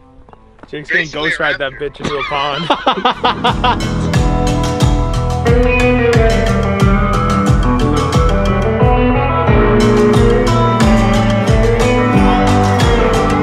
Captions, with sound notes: - Jake's gonna ghost ride that bitch into a pond. (laughing) (chilled guitar music)